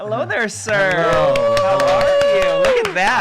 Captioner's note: clapping